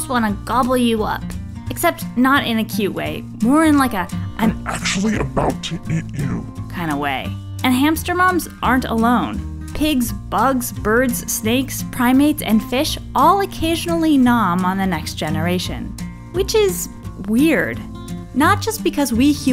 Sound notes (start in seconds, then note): 4.3 devil voice